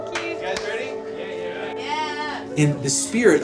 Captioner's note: crowd